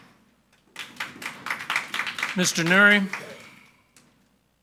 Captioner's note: audience applauding